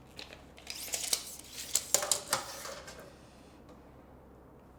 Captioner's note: measuring tape swishing